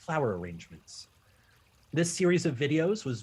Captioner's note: trickling water returns